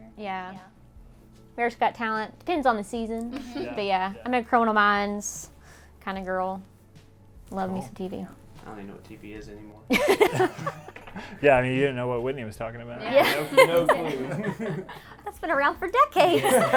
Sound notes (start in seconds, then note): 3.3 all muttering agreement; 10.0 all laugh; 13.2 all laugh; 16.4 all laugh